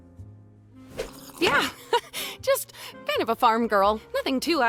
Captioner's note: laughs